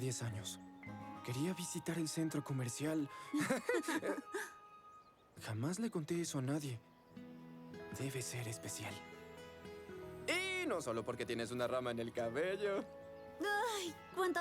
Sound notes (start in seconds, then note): 3.3 giggles